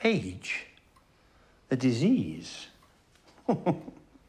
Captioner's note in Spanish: risas